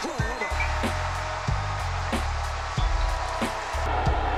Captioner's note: cheering